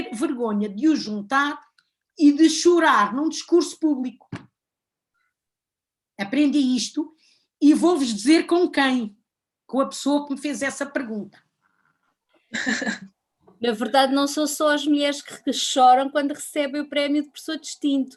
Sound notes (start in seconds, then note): 12.5 laughs